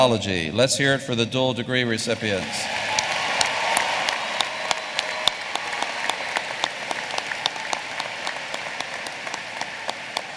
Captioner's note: applause